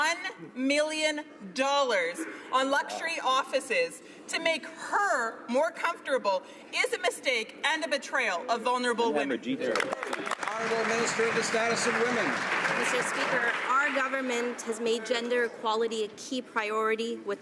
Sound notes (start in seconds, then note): 12.9 some Applause